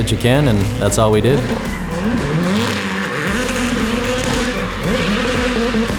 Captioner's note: car engine roaring